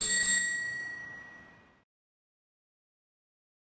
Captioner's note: bell ringing